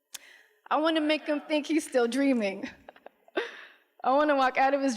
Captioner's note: laughs